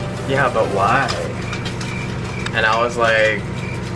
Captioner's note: crickets chirping